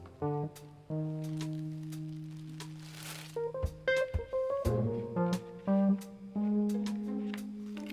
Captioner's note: upbeat groovy music; packet rustling